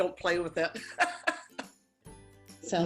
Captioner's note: laughing